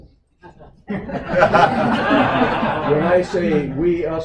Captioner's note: laughter